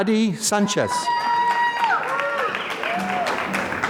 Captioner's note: applause